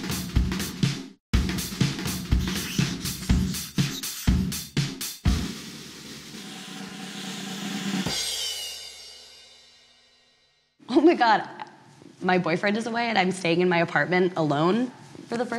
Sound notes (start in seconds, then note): 2.3 pencil writing sound effect; 5.2 drumroll